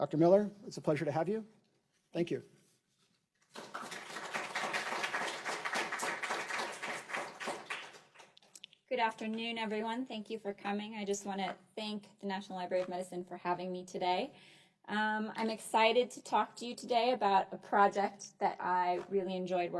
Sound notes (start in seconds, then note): 3.4 applause